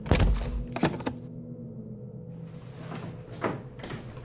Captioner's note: lock clicking